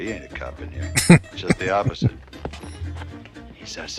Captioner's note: chuckling